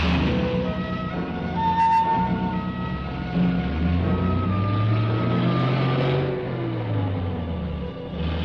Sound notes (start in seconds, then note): 4.5 engine rumbling